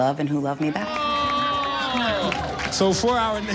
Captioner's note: people applauding